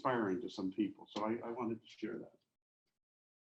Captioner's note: faintly speaking